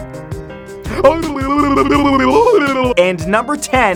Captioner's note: lips blubbering